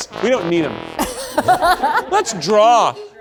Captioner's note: audience laughs